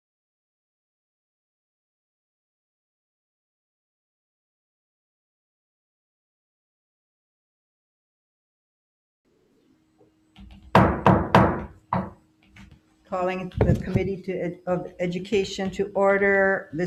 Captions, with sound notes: (pounding gavel) - Calling the Committee of Education to order.